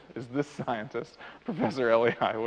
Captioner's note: laughs